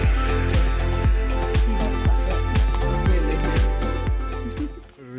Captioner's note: upbeat music; speaking in foreign language